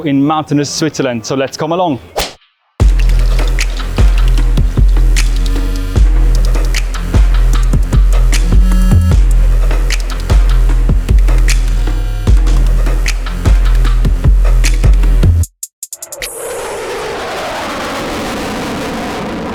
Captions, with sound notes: in mountainous Switzerland, so let's come along. (hand smacking) (dramatic music) (engine roaring)